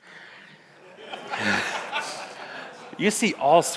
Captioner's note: audience laughs; laughs